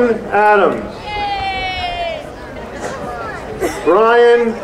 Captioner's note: crowd cheering